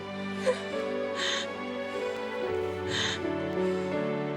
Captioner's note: Coral crying